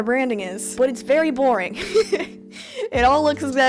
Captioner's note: laughter